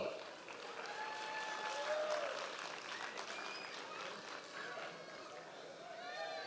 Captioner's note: members of the audience cheering